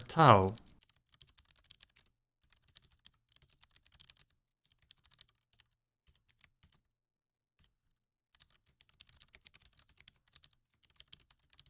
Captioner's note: typing